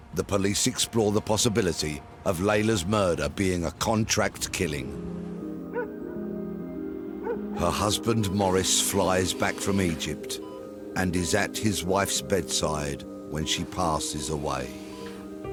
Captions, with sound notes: The police explore the possibility of Layla's murder being a contract killing. (dramatic music) (dog woofing) Her husband Maurice flies back from Egypt and is at his wife's bedside when she passes away.